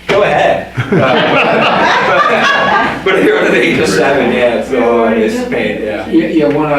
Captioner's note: audience Laughter